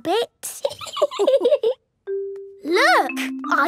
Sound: laughing

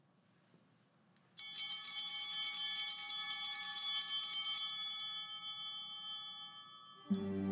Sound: bell ringing

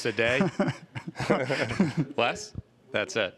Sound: laughter

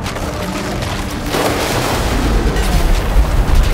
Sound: wind blowing

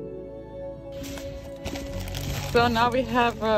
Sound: packet rustling

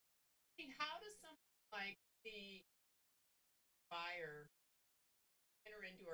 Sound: audio cuts

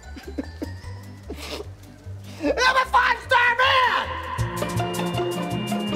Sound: sobs

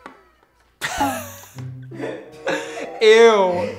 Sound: laughs

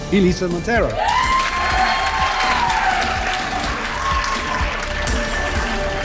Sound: crowd cheering and applauding; uplifting music

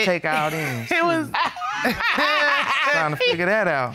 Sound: judges laughing

